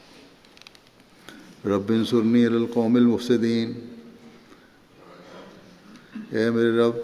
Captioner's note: Arabic